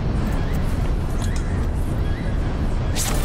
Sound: beeping

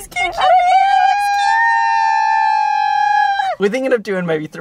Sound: squealing

